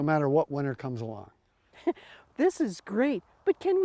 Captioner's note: chuckles